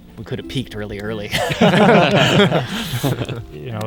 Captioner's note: all laugh